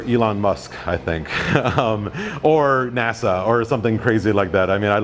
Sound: laughs

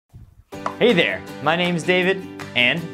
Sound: upbeat happy music; object pops

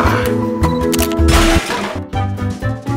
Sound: crash!

